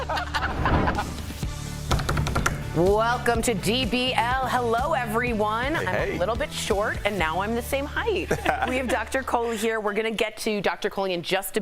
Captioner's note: laughter